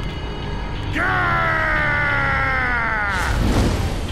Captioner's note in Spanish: Gritos